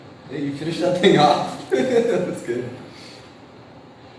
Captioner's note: laughs